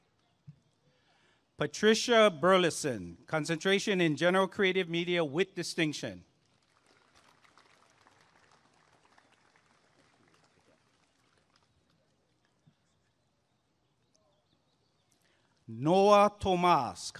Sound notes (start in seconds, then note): 6.5 applause and cheering